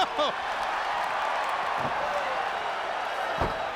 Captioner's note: audience cheering